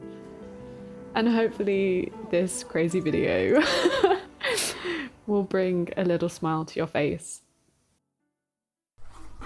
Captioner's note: laughs